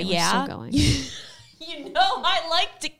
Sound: laughing

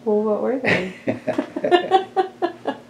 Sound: laughter

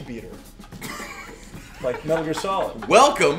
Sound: laugh

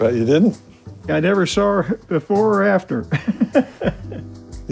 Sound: laughs

